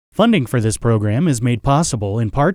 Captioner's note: voiceover